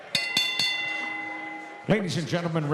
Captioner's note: bell rings